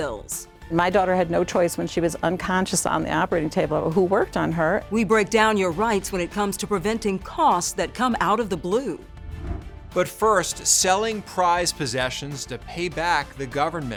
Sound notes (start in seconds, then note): 9.2 air whooshing